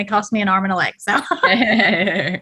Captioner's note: laughter